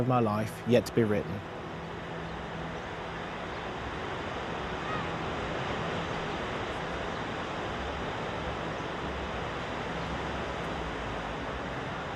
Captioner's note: distant sea ambience